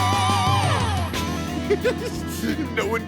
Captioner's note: giggling